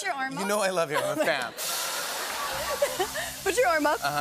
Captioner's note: laughter